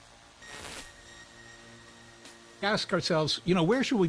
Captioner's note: static crackling